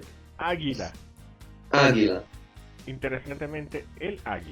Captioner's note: men speaking in Spanish